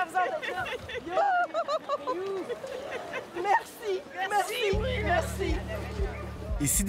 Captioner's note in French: rires joyeux